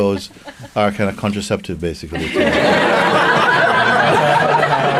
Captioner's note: laughter